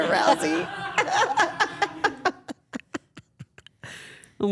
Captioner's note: everyone laughs